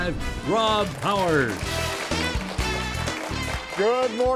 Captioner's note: upbeat music; audience clapping